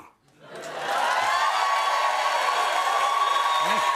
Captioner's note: cheers and applause